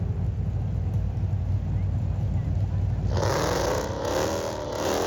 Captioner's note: car engine revving